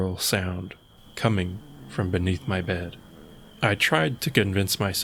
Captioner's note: quiet Groaning